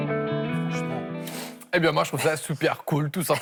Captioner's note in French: grognement